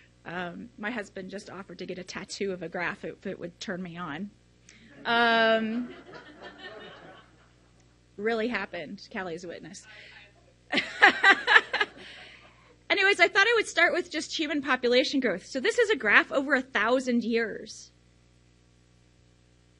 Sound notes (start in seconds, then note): 5.6 audience laughs; 10.7 laughs